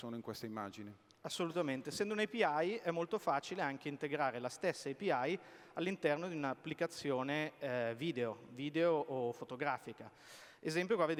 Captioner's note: speaking italian